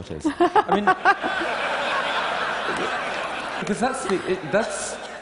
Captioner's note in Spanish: Risas